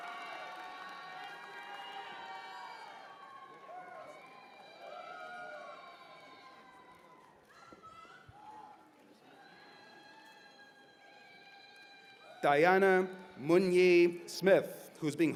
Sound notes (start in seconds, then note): 6.3 cheers and applause